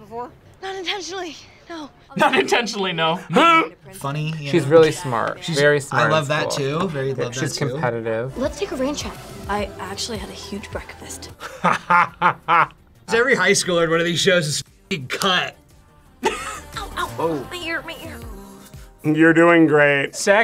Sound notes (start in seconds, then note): 3.2 laughs; 11.4 laughs; 16.2 laughs